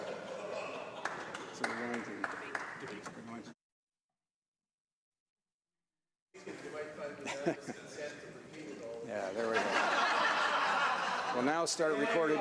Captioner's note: laughter